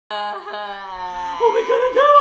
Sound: crying

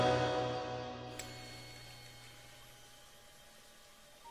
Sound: jewelry chimes

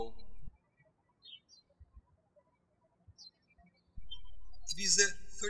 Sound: birds chirping

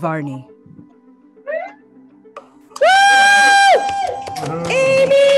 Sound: cheering

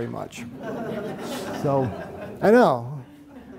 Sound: audience giggles

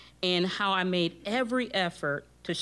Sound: none

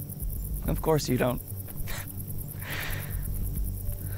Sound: laughs

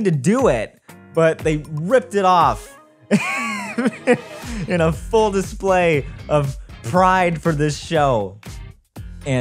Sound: laughs

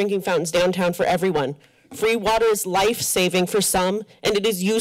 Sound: mic static

